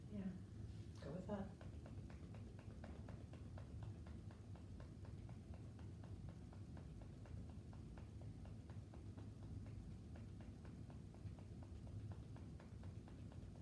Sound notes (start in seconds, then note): 2.1 gentle tapping